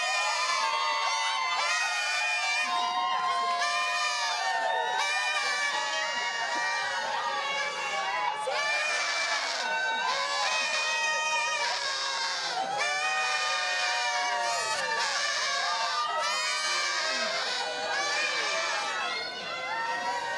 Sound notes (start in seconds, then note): 3.4 cheering